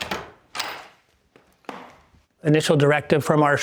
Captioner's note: door knob clacking